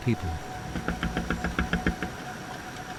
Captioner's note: window knocking; boat droning; water whooshing